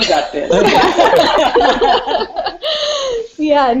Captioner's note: laughter